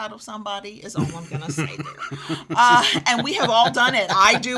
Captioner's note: laughs